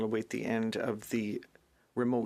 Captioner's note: speaking French